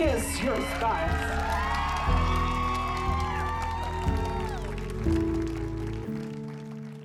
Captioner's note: attendees cheering; attendees clapping